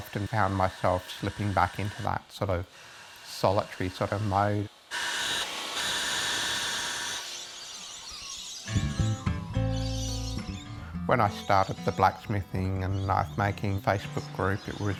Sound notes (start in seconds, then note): 5.1 blacksmith tool whirring; 8.7 calm music